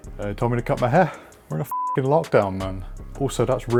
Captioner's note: beep